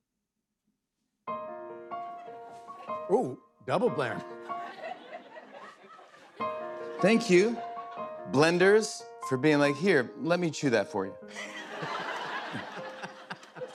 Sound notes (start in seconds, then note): 11.3 laughter